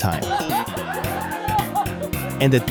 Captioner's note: laughter